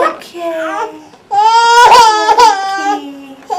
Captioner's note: baby crying